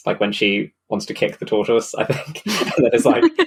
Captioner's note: laughs